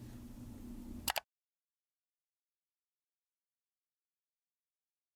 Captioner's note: button clicks